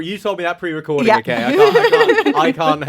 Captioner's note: laughs